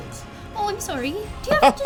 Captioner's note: laughing